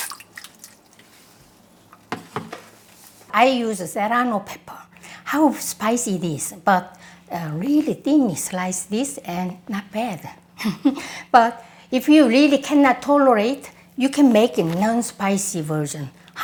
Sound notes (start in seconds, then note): 10.6 laughs